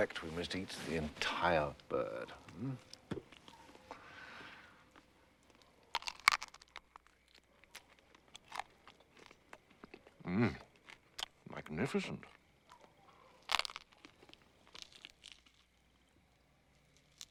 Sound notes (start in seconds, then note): 5.3 crunching